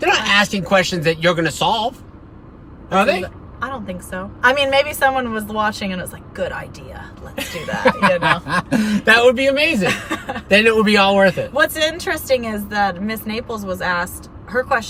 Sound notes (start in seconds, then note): 7.4 laughing